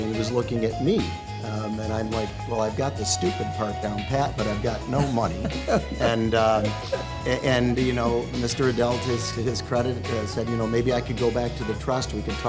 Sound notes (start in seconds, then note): 4.9 laughter